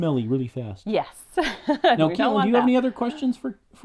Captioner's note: laughs